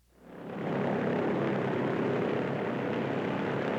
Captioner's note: airplane motor